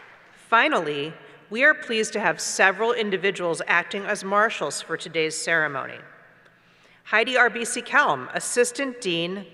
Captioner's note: applause